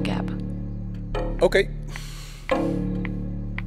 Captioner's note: Falguni sighing